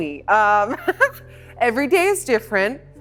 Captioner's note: laughing